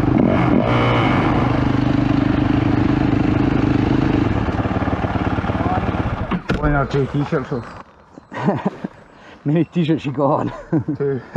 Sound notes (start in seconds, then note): 8.1 laugh